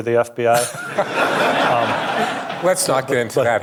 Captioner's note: audience laughing